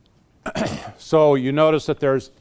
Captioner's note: clears throat